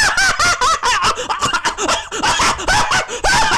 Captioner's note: coughing & laughing